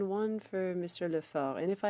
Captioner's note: speaking French